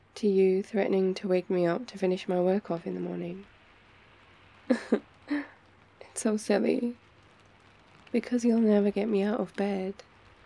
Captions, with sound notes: to you threatening to wake me up to finish my work off in the morning *laughs* it's so silly because you'll never get me out of bed